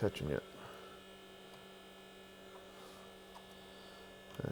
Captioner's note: machine hums